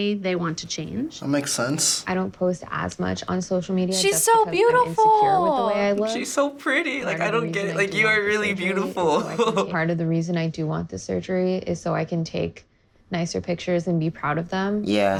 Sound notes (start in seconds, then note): 2.1 voice-over; 9.3 laughs